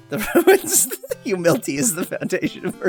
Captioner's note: laughing